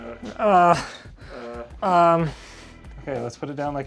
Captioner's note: grunting